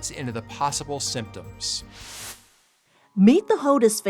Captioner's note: graphic whooshing